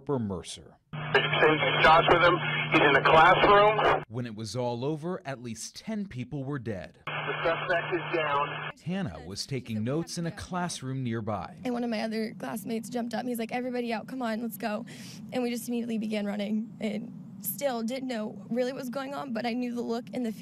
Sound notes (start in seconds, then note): 5.0 NAT 7:45 scanner audio